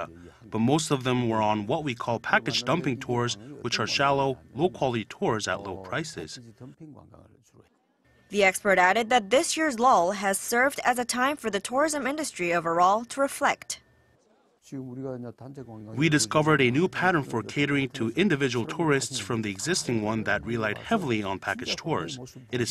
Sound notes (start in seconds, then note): 14.5 Korean